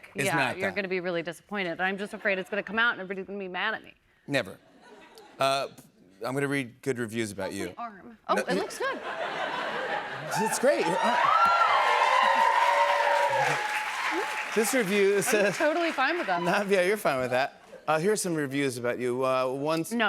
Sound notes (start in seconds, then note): 8.4 laughter; 10.1 cheers and applause